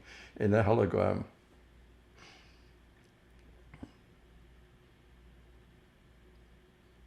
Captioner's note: pauses 6 seconds